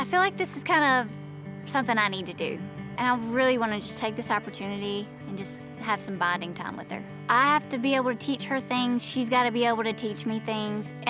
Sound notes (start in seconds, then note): none